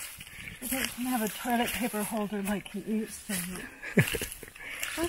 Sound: chuckles

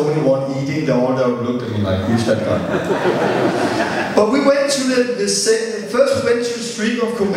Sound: laughter

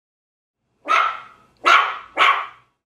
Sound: puppy barking sound effect

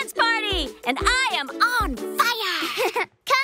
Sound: giggle

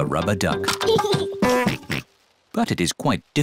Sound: giggles and oinks

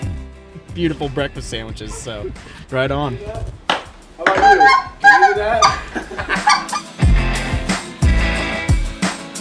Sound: goose call

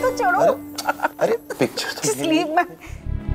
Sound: Poonam laughs

